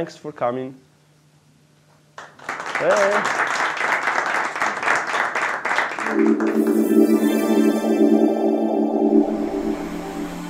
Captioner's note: applause